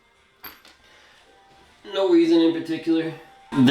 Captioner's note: blank Audio